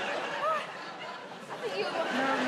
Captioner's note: audience laughing